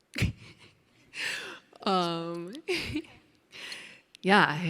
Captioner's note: chuckling